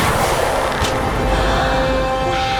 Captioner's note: gasping